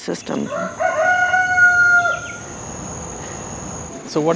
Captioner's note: rooster Crows & Cat Meows